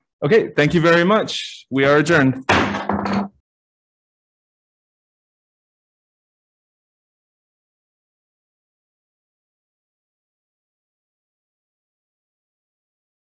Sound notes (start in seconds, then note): 2.4 gavel slams